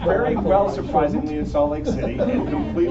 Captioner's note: laughter